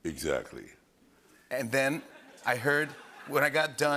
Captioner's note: laughter